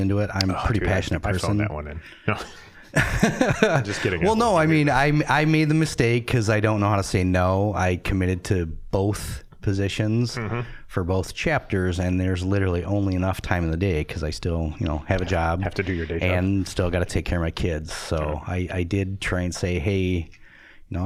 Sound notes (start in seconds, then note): 2.3 all laughing